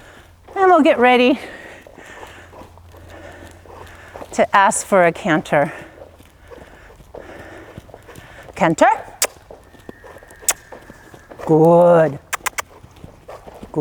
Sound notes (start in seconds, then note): 10.4 kissing sounds